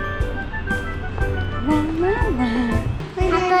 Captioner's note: ㅋㅋ